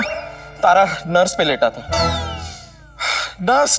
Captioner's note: Sighs; Sighs